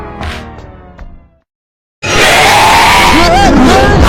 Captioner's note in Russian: Скример и крики